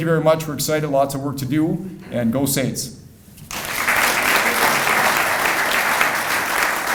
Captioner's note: audience applauding